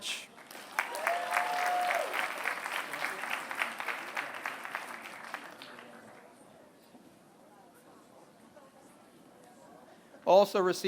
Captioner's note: applause